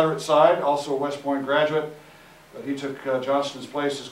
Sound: none

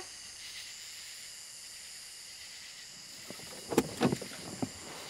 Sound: insects chirping

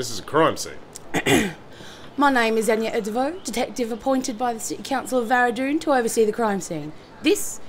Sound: clears throat

